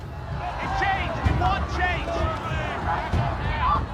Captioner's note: crowd shouting